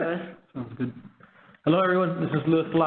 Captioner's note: laughs